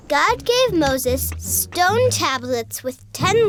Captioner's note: voiceover